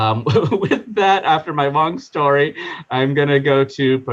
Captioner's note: laughing